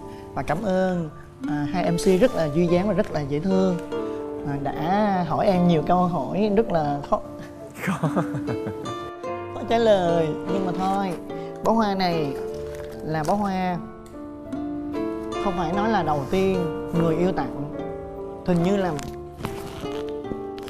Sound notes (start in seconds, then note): 7.8 laughs; 7.8 chuckles